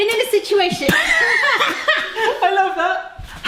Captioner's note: laughing